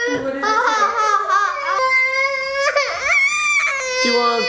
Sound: begins crying

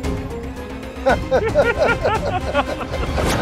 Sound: laughing

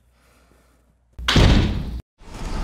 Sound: door slams

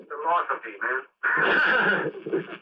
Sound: laughter

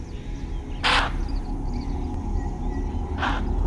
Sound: grunts

